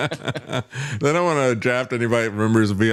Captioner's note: both Laughing